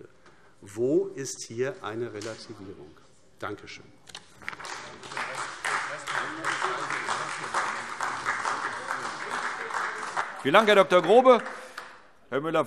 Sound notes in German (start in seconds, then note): 6.2 Beifall AfD